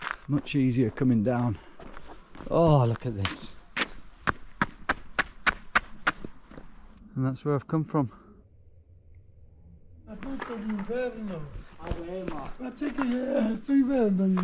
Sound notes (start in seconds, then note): 4.3 tarmac scraping; 10.1 men speaking Italian